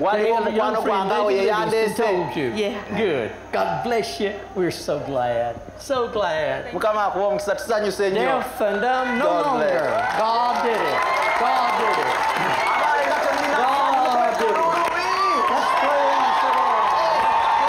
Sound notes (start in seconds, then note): 9.5 applause and cheering; 13.1 applause